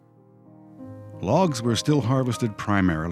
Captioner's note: voiceover